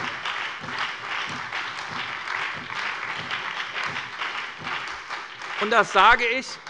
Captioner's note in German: Beifall bei der SPD und der FDP